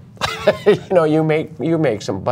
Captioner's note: laughter